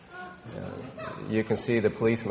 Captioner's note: people laughing